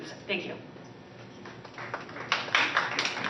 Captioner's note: applause